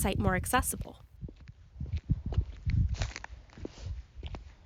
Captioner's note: footsteps